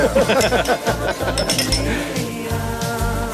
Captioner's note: laughing